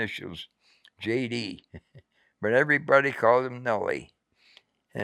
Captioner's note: chuckles